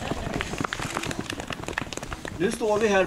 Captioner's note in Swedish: Skratt och applåder